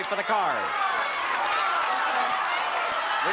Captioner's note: audience shouting